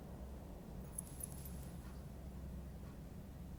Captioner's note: necklace jingles